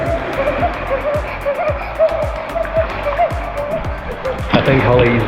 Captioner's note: chattering teeth